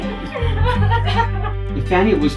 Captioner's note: sobs